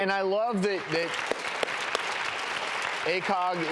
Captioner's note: audience applauds